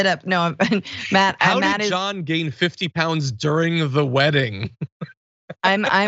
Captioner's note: laugh